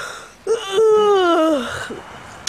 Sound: yawns

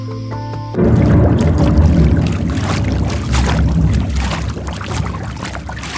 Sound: loud rumbling, water gurgling

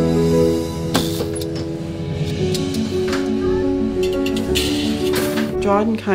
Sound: machinery noises

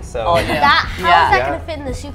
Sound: laughs

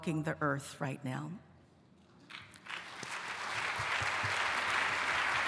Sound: applause

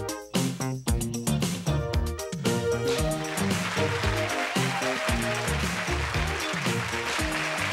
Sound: audience applauds

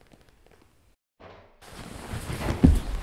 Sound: door opening

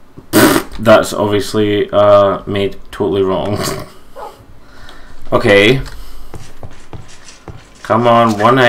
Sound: laughs

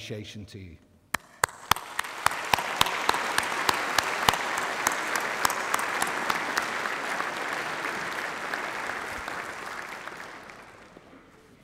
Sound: applause

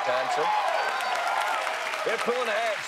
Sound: cheers and applause

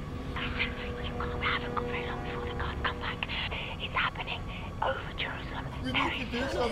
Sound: mutters

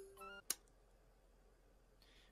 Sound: kiss

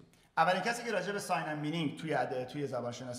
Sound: speaking in farsi

